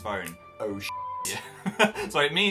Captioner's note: laughing